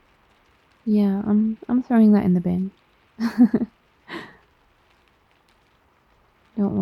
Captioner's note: laughs